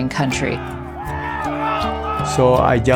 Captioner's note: people cheering